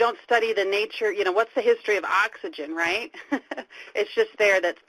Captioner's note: laughing